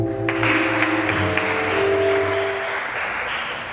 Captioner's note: audience claps